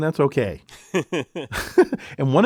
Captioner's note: laugh